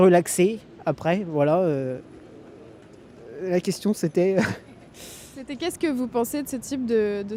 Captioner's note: laughs